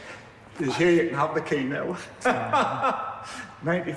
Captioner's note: laughing